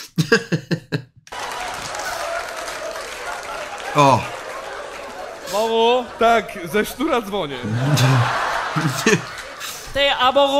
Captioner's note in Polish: Aplauz